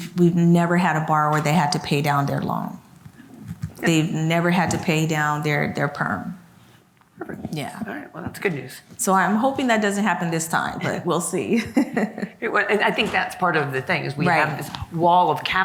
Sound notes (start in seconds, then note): 11.5 laughs